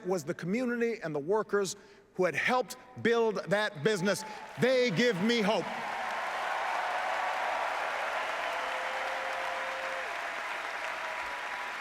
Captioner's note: applause